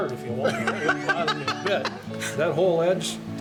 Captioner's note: laughter